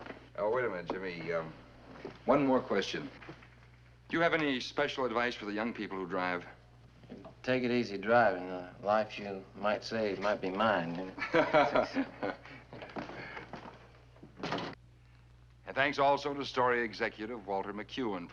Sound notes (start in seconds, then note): 11.1 chuckles